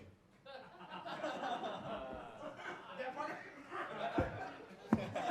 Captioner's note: audience laughing